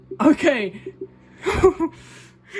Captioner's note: chuckles